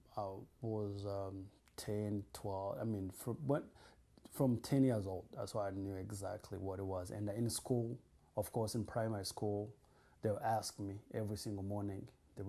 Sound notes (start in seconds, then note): none